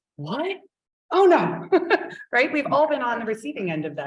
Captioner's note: chuckling